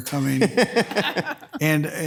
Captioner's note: laughing